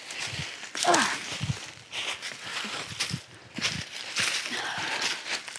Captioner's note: grunting